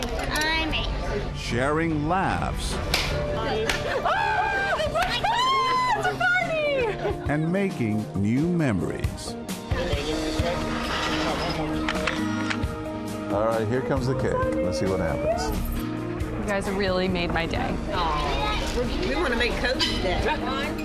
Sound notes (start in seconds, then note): 3.0 poppers explode; 5.2 excitedly screams; 11.9 shutter clicks